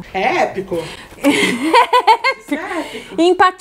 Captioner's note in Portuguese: risos